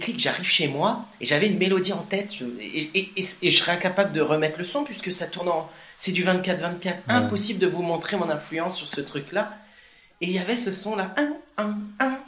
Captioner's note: sound+beatbox